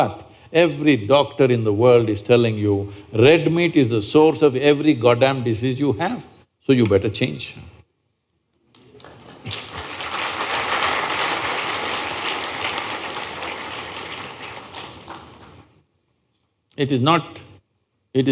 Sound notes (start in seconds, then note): 13.1 applause